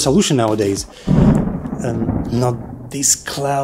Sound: thunderstorm

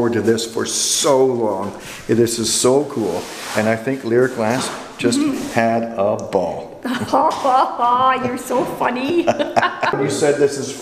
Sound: laughter

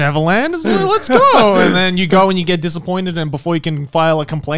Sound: laughing

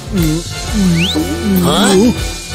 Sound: making happy sounds

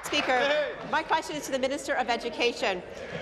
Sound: applause

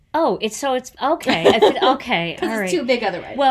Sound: laughs

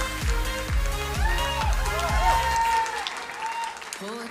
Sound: crowd cheering and applauding

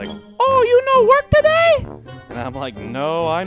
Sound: high-pitched voice

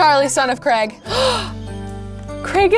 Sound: gasping

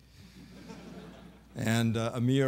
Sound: laughter

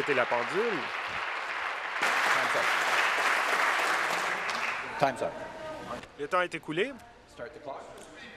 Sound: applause

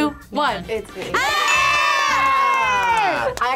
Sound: group cheers

